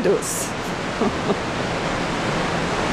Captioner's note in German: Lachen